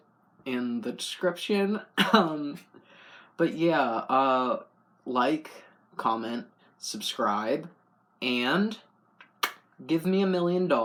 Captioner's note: laugh